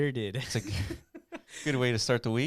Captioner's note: laughs